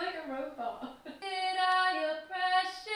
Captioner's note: laughs